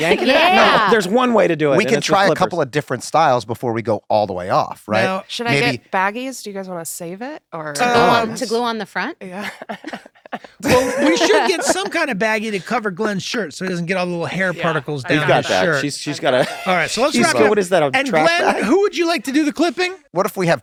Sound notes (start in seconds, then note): 9.2 laughs